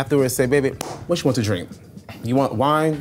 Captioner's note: claps